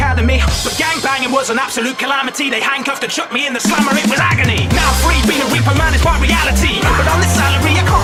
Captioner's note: vroom